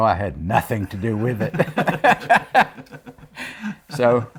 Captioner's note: laughs